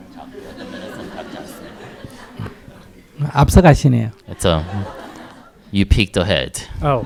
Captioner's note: audience laughs